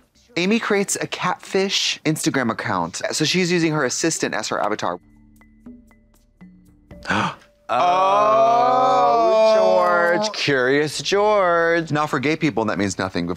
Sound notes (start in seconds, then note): 7.0 blonde Women gasp; 8.0 blonde Women in unison